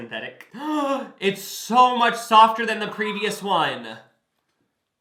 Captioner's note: gasps